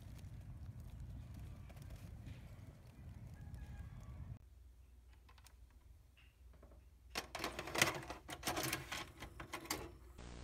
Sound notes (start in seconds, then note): 7.2 mechanical noise of VHS going in the player